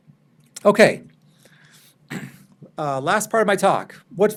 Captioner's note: person throat clearing